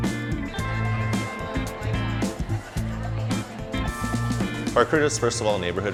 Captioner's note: people chattering